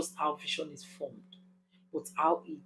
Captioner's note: paause